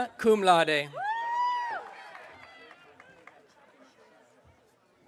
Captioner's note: audience cheering